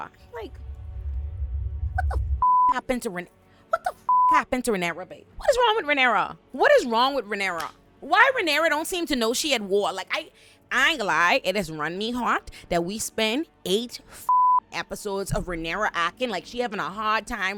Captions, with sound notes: Like, what the (beep) happened to Renera? What the (beep) happened to Renera, babe? What is wrong with Renera? What is wrong with Renera? Why Renera don't seem to know she at war? Like, I ain't gonna lie, it is runny heart that we spend eight (beep) episodes of Renera acting like she having a hard time